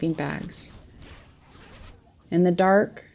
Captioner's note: zip of sleeping bags being closed